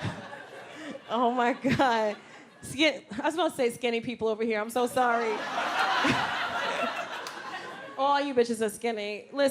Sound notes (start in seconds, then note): 5.0 audience laughs